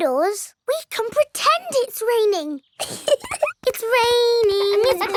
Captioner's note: laughs